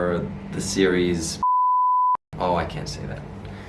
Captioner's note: beep